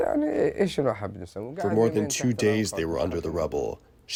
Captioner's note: through translator